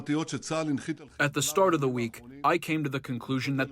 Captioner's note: through translator